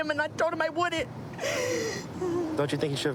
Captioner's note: sobbing